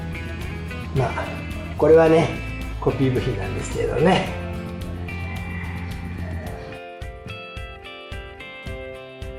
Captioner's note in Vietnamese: cười